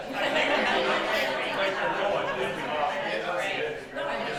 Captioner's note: attendees laugh